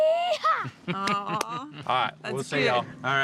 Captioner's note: claps